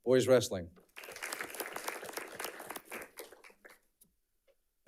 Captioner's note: audience clapping